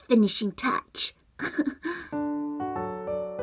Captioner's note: giggle